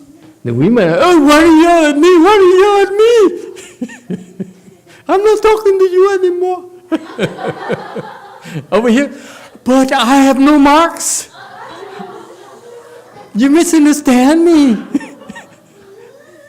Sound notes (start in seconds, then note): 3.5 laughs; 7.0 laughs, audience laughs; 11.3 audience laughs